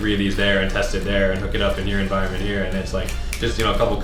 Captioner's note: clicks fingers